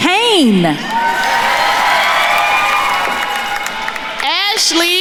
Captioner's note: attendees cheering and applauding